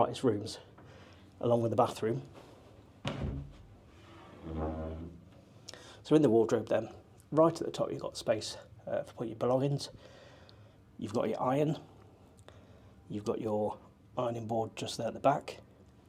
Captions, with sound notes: one of the brightest rooms along with the bathroom. (doors creaking) So in the wardrobe then. Right at the top you've got space to put your belongings. You've got your iron. You've got your ironing board just there at the back.